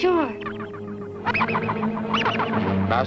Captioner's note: machines beeping